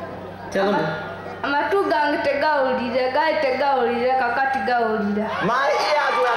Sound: speaking in local language

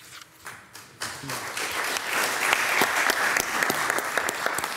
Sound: all loudly applauding

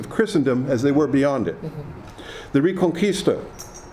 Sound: someone chuckles

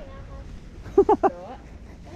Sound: laugh

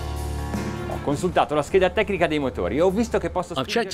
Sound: speaks in foreign language

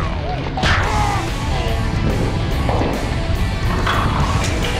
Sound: slow motion crash

